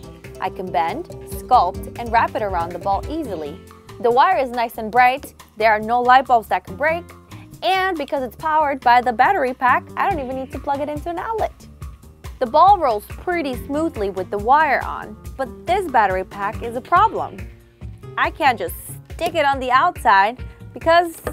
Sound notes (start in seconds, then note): none